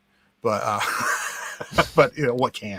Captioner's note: guy laughs